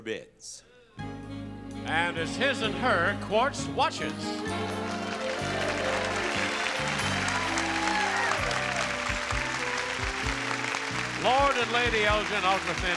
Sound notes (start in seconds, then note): 0.3 instrumental music; 4.0 audience applauding